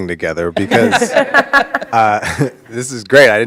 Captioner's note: all laughing